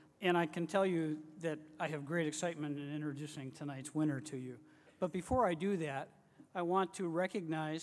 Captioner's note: none